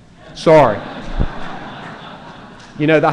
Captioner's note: laughter